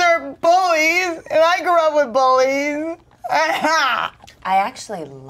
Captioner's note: sobs